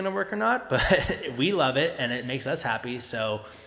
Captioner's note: chuckling